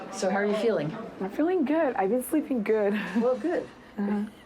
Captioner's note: laughs